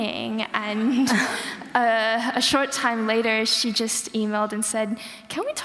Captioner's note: laughter